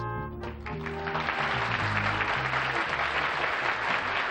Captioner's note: applause